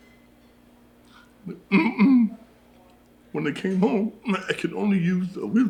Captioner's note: clears throat